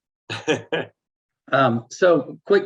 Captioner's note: laughing